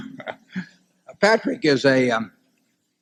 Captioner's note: laughs